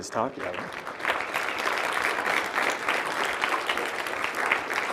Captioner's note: audience applauding